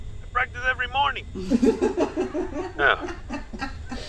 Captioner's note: Nev laughs; Sandra laughs